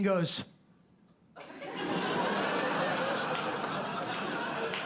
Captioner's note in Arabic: ضحك